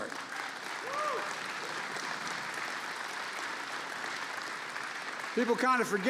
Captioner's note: applause